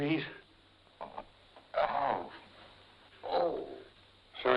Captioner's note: Jim grunting